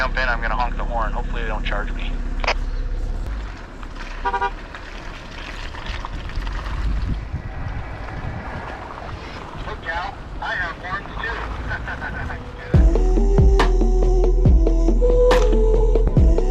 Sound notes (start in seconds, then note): 4.2 car horn honking; 10.4 chuckling; 12.7 upbeat music